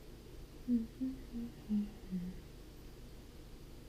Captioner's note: soft humming